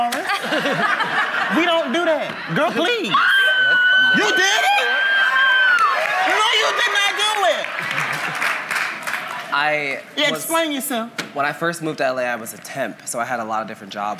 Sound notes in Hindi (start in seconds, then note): 0.0 हँसी; 5.3 वाहवाही